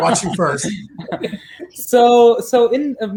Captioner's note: all laughing